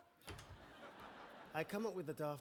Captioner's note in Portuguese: audience laughing